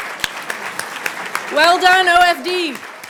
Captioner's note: audience applauding